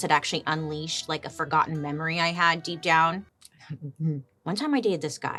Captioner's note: chuckles